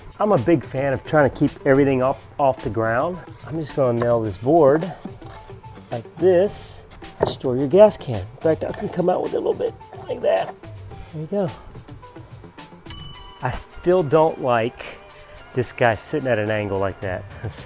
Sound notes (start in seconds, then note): 12.8 bell ringing